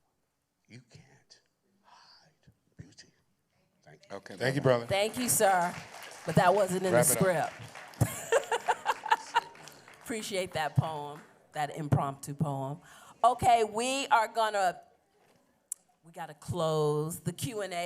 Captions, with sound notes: You can't hide beauty. Thank you. -Thank you, brother. [applause] -Thank you, sir, but that wasn't in the script. -Rev it up. -[laughs] Appreciate that poem, that impromptu poem. We got to close the Q&A.